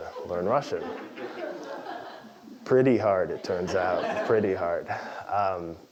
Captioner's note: laugh